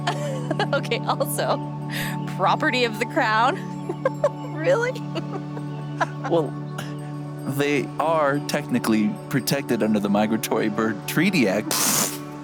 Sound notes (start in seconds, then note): 3.4 laughs; 11.6 laughter